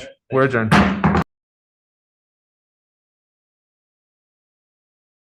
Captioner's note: gavel banging